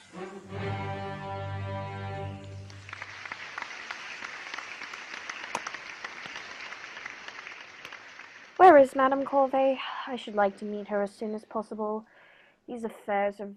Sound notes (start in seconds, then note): 2.3 applause; 6.2 chatter of voices throughout